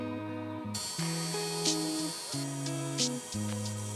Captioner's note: drill whirs